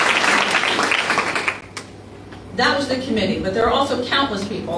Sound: applause

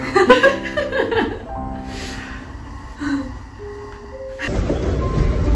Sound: laughing

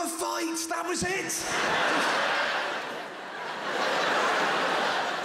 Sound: crowd laughter

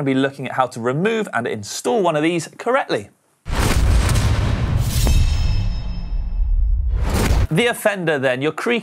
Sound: sound effects

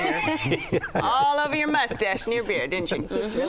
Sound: laughter

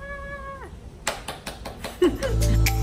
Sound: applause

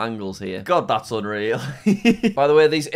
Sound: laughs

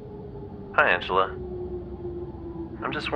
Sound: voice on phone

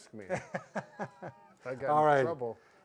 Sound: laughs

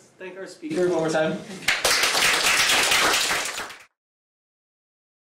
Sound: applause

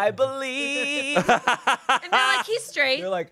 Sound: laughs

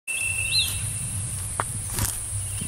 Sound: footsteps

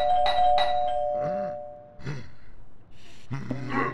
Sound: rings doorbell urgently; grunts

